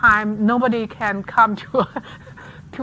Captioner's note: laughs